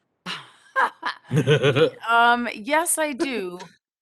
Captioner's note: laughing; laughs